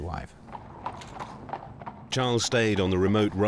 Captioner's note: horse trotting